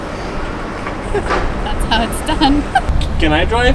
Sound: laughter

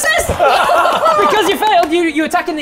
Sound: jammy laughter

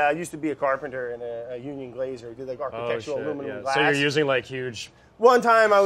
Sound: none

